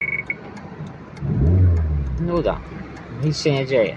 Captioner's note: stock NC sound